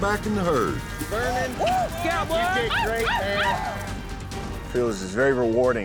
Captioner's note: cheering